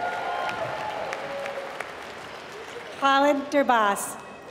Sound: applause

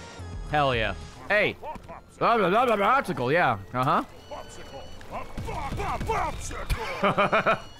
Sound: grumbles; laughs

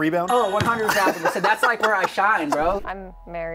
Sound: laughter

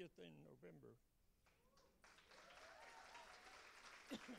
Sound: cheers and applause

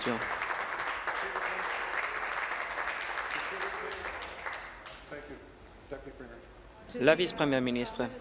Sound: applause

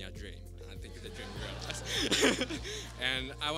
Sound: laughter

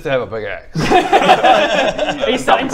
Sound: laughter

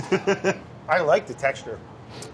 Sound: laughs

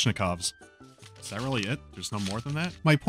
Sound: flipping pages

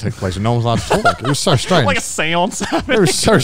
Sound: laughs

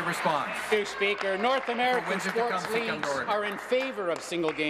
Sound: applause

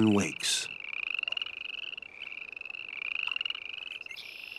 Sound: frogs singing

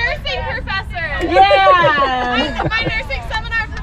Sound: laughing

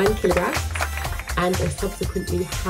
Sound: clapping

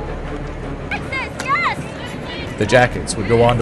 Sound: dramatic music; players yelling, applause, refs whistle

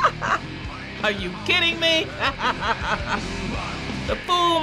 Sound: giggling; laughs

